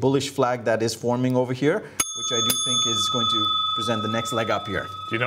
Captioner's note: rings the bell